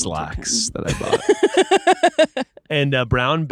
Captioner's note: laughing